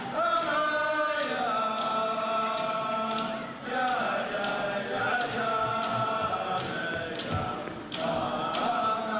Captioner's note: chanting